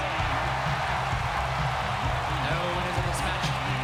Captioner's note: audience cheering